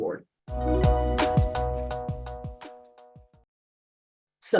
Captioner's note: bright sound